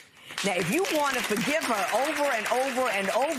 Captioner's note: applause